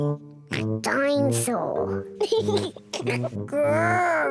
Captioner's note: laughs; oinks